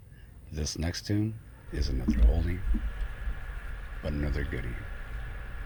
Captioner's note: radio Announcer